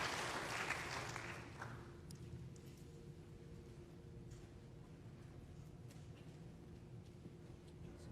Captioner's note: applause